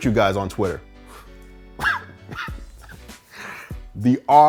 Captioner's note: chuckles